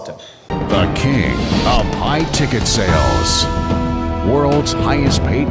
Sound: voiceover

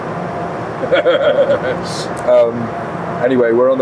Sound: laughing

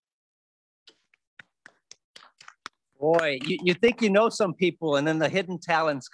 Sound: hands clapping

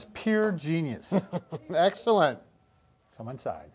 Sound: laughs

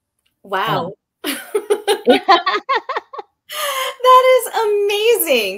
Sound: both laughing

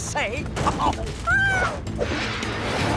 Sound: meowing

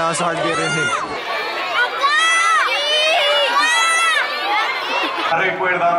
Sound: kids yelling for balls; live music

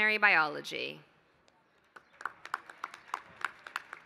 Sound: applause

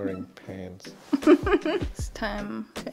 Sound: laughs

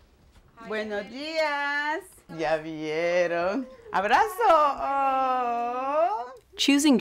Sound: speaking in Spanish

